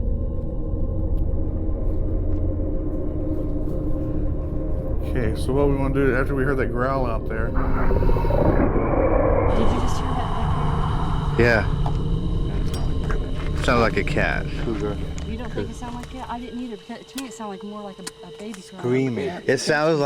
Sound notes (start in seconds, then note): 0.2 haunting music continues; 7.4 creature growling